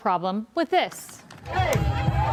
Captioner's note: cheers